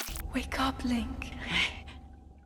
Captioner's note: gasp